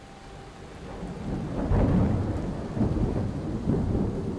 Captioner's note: thunder rumbles